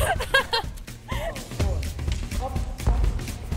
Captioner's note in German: Lachen